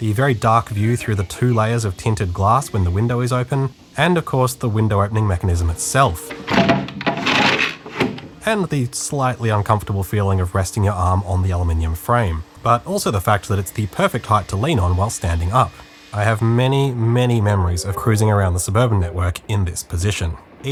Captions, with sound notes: the very dark view through the two layers of tinted tinted glass when the window is open, and of course the window opening mechanism it’s self.. [bang, rattle, crash] ..and the slightly uncomfortable feeling of resting your arm on the aluminium frame.. but also fact that it’s the perfect height to lean on while standing up. I have many, many memories of cruising around the suburban network in this position.